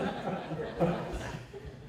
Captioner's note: laughter